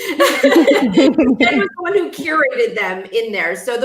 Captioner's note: laughing